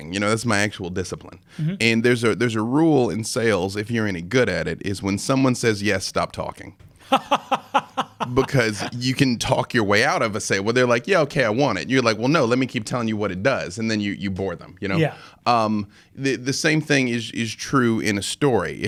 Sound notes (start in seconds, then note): 7.0 laughing